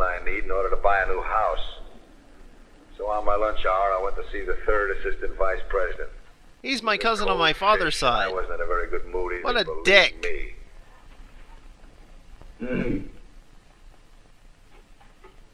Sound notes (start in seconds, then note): 12.6 clears throat